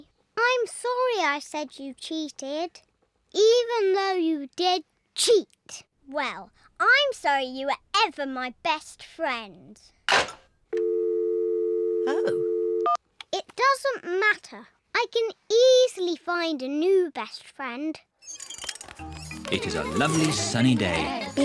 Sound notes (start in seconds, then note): 10.8 dialing tone